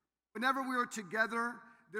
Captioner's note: none